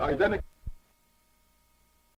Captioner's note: buzzing